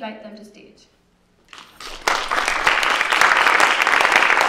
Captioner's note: applause